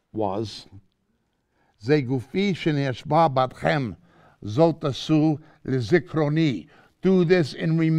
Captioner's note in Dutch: Hebreeuws